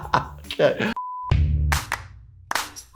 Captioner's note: laughing; screen beeps; cheerful music